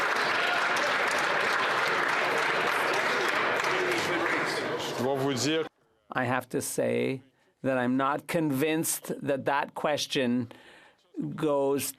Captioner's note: some Applause